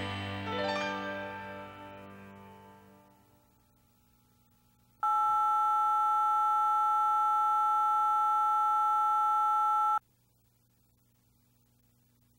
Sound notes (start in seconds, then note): 5.0 phone beep